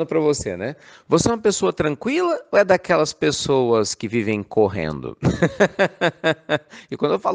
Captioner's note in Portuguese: Risos